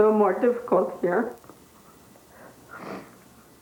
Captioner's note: sniffs